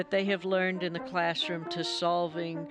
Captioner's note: none